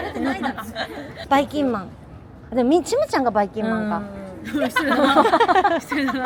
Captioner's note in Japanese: 笑い